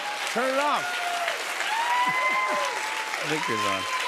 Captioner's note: laughter